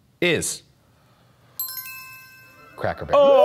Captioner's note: bell dinging